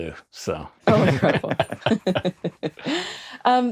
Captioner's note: chuckles